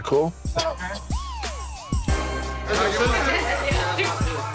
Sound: laughing

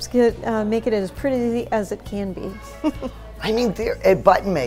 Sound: laughs

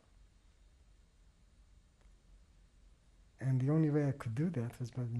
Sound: pauses for 3 seconds

